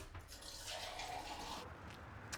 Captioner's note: filling water from the tap